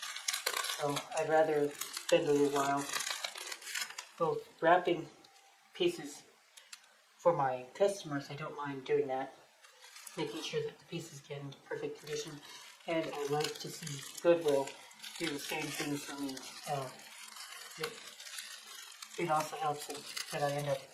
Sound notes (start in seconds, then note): 2.9 sound of tape being torn off bubble wrap